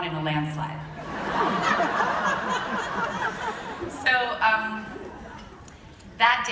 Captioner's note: laughter